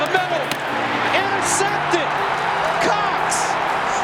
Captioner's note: crowd cheering